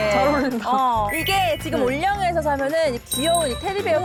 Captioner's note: cute sound effect